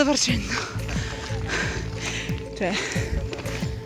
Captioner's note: panting